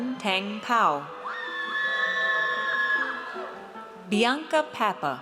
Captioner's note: audience cheers